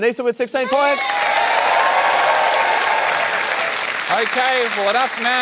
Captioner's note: cheering, applause